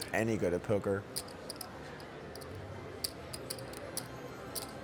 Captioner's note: soft clacking